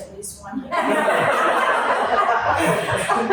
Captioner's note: laughter